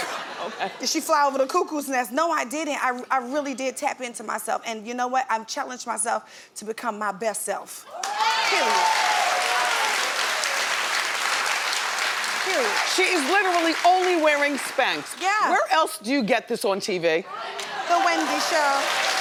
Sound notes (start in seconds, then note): 7.9 audience cheering